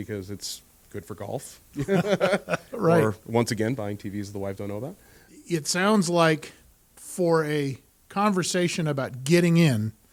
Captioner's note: hysterical laughter